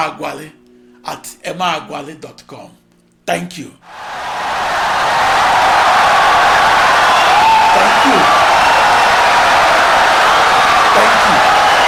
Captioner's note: wild applause and cheering for 17 seconds